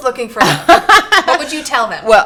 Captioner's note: laughing